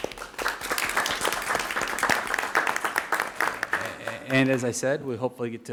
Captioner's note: audience applauds